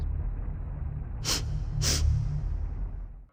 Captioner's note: sniffing